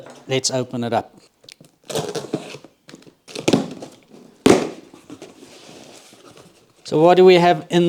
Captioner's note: workshop Sound